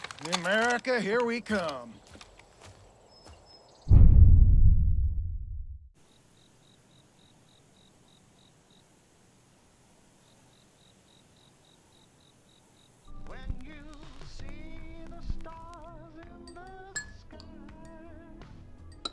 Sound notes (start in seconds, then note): 6.0 crickets chirping; 13.3 pop music playing